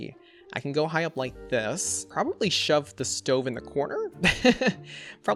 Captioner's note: laughs